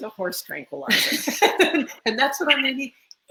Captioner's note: laughs